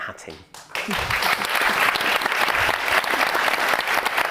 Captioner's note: all applauding